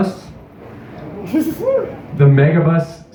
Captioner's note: 2 People Cheer